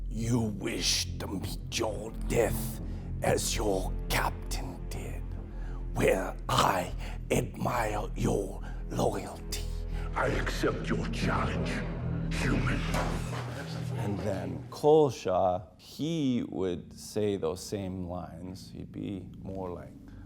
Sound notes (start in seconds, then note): 0.1 in deep voice; 13.9 in normal voice